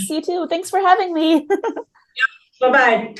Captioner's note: chuckles